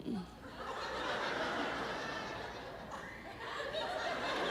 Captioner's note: audience laughs